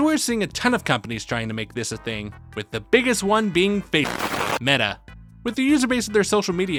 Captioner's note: static